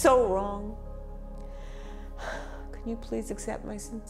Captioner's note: sighs